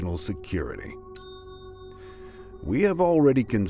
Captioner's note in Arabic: يرن الجرس